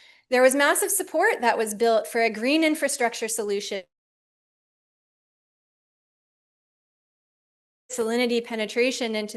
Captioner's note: audio break